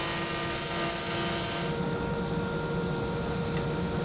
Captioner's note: saw buzzing continues